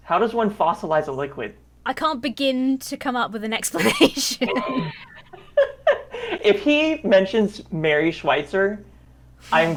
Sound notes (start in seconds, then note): 3.7 both laugh